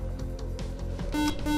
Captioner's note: beeping